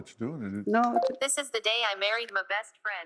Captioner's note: electronic voice